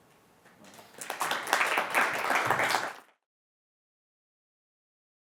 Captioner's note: applause